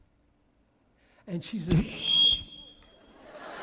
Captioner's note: feedback